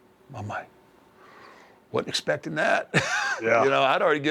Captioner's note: laugh